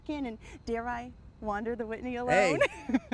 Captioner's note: laughs